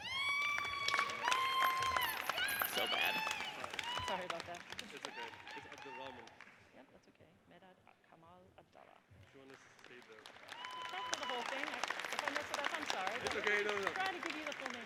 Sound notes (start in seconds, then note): 0.0 audience cheers and applauds; 9.6 murmurs; 9.8 audience applauds and cheers